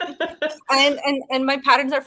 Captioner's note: woman laughing